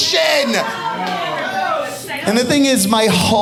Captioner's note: audience exclaiming